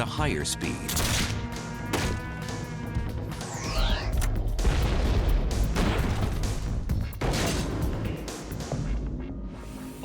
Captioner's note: gun fires